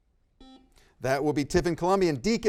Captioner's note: buzzer beeps